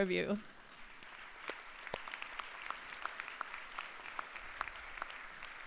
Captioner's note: applause